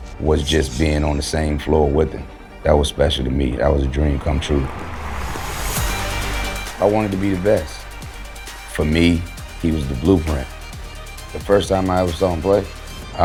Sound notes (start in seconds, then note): 4.7 crowd clapping; 5.5 suspenseful music continuing